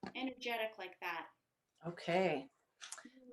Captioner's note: none